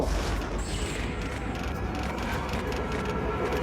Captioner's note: disorienting noises